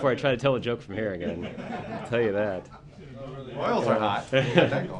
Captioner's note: laughter